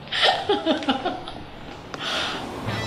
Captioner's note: Tania laughs